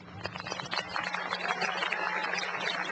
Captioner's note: applause